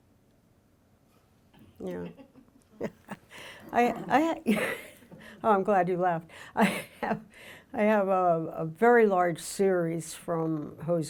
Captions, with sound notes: Yeah (laughs) oh, I'm glad you laughed. I have a very large series from Jose's Peluqueria,